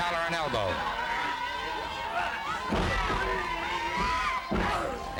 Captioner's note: crowd yelling